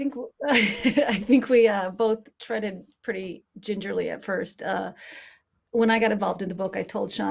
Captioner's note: laughing